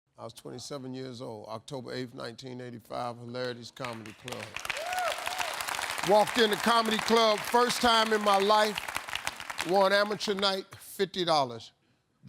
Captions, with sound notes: - I was 27 years old, October 8th, 1985, Hilarities Comedy Club. (audience cheering) (audience applauding) Walked into a comedy club first time in my life, won amateur night, $50,